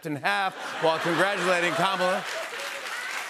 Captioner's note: laughter and applause